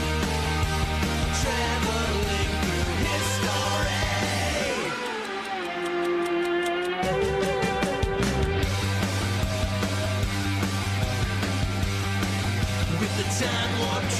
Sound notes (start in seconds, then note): 4.0 ticking; 7.8 rock music